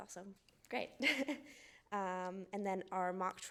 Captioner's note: chuckles softly